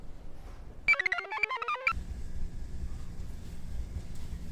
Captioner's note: computer chirps